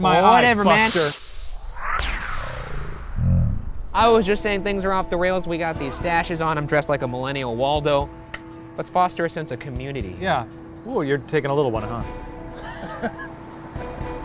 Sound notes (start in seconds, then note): 1.9 laser whoosh; 12.6 laughs